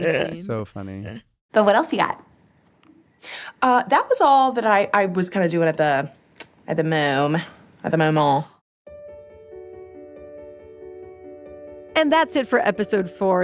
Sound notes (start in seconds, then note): 7.6 french pronunciation; 8.9 gentle outro music plays